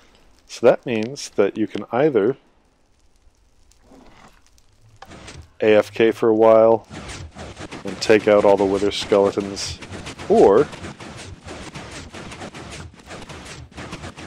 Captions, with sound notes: So that means that you can either [pressure plate clicks, pistons start] AFK for a while and take out all the wither skeletons, Or... [arrow wooshes, pistons continue]